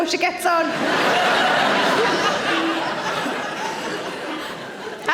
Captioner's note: audience laughing